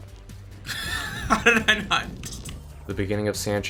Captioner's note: laughs